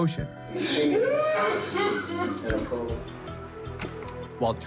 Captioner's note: sobs